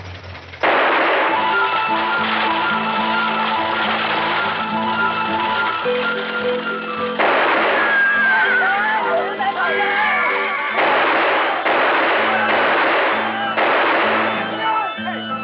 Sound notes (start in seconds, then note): 0.1 gunshots; 8.5 shouts and confusion; 10.7 gunfire